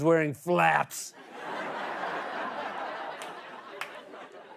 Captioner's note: laughter